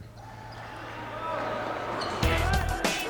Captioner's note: game hubbub